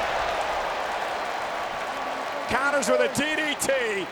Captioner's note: crowd cheering